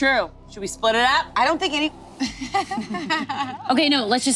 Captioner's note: laughs